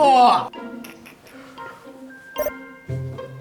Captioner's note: inhale